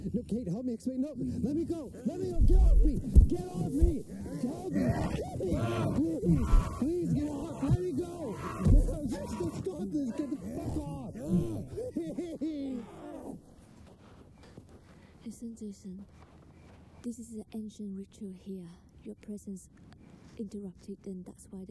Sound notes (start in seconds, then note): 5.2 men groaning